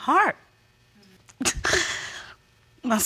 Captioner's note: sobs